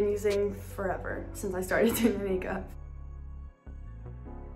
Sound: chuckles

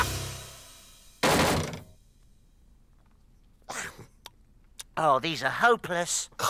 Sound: Iver and Groove crash

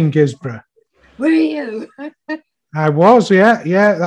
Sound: laughs

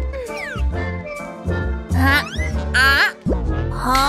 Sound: groans; taking sips

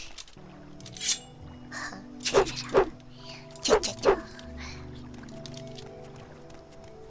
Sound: makes knife slashing noises

